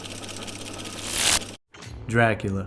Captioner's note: electricity buzzing